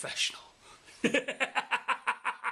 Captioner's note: crazy laugh